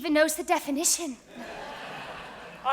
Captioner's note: audience laughs